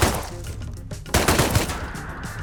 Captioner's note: thompson sound